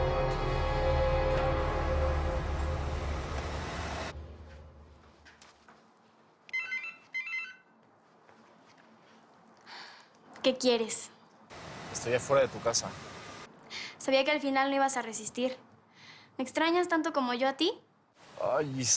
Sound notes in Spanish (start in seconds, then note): 6.5 Suena el celular